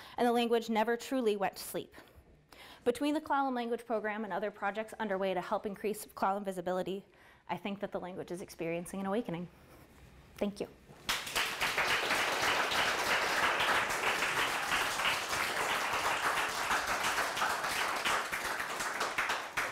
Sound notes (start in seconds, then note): 11.2 applause